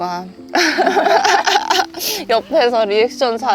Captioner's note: laughter